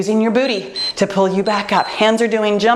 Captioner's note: timer beeps